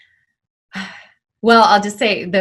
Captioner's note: sighs